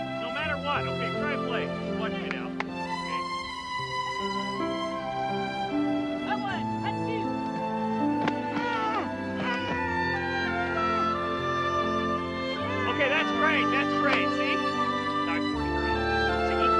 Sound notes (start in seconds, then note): 0.3 gentle music; 5.1 women groaning; 12.1 Howard speaking faintly